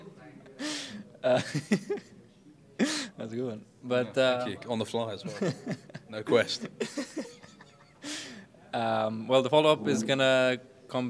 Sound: laughs

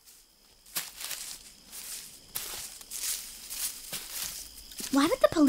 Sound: footsteps, leaves rustling

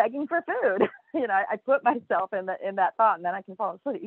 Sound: laughs

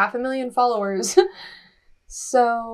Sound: laughs

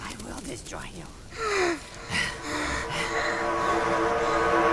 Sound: panting; KRAMPUS and ALBERT panting

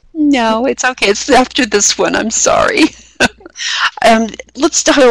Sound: laughing

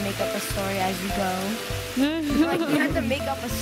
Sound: laughing

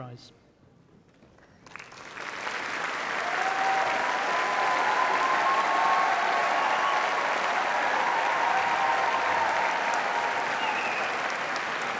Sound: applause

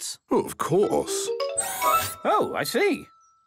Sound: mechanical arm whirring

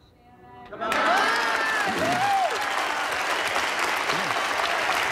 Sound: all cheering and applauding

